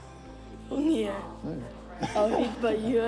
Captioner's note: laughs